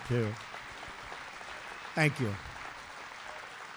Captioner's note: applause